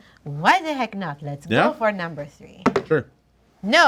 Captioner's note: dice roll